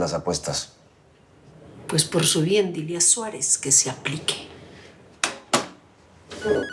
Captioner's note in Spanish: Suena el celular